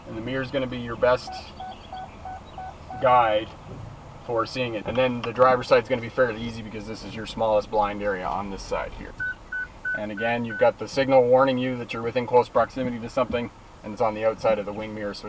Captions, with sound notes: And, the mirror's gonna be your best guide for seeing it. And then, the driver side's gonna be fairly easy because this is your smallest blind area on this side here. (beeping) And again, you've got the signal warning you that you're within close proximity to something and it's on the outside of the wing mirror,